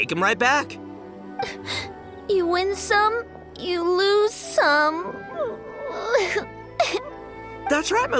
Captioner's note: sob